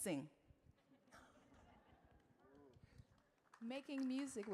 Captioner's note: audience laughing